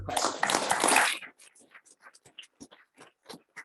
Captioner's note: audience clapping